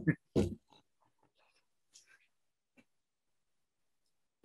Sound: laughs softly

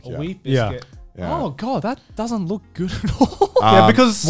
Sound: laughing

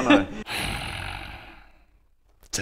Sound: outraged sigh

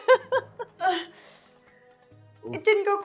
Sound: moans

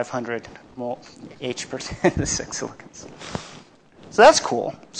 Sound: laughs

